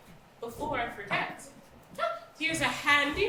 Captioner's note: none